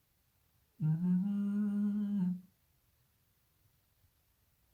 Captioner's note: humming